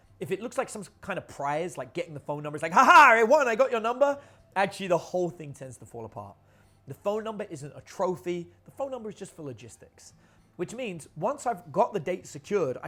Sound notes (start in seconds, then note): 2.7 laughs